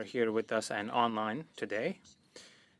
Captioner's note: speaking French